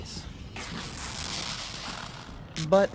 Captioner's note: fabric tearing